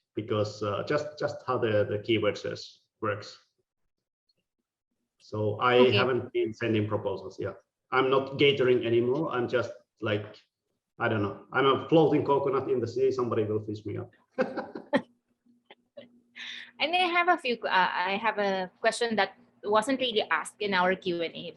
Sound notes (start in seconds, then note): 14.3 laughing